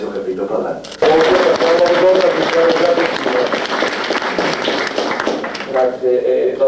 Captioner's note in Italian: Applausi